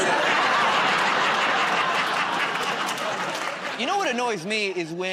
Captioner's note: laughter